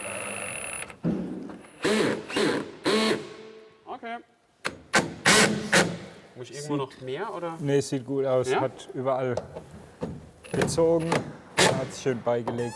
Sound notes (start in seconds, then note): 1.8 drilling noises